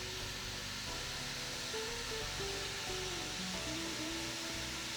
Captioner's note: sizzling continues